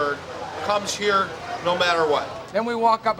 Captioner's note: laughs